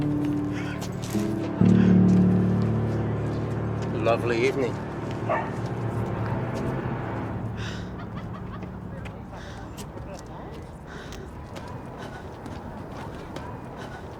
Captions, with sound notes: - Lovely evening. (hard breathing)